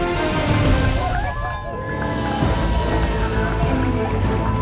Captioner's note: crowd cheering